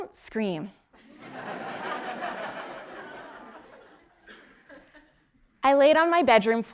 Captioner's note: laugh